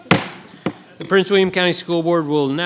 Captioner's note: gavel banging